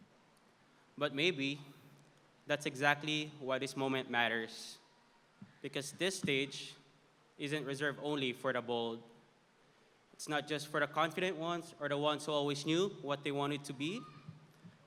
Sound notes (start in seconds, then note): none